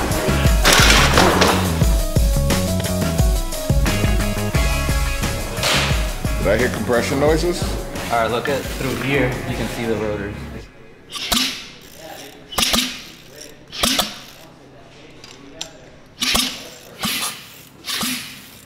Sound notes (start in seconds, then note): 10.6 rotors popping